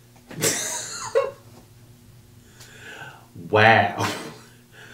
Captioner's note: laughs